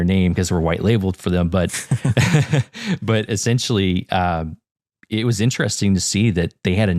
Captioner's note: laugh